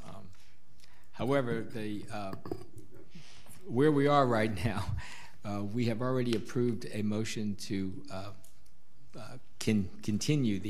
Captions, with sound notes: However, where we are right now, (laughing) we have already approved a motion to continue the item.